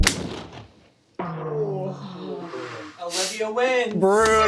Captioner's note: crew groans